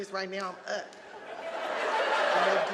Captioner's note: audience laughing